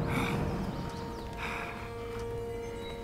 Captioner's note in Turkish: Nefes sesi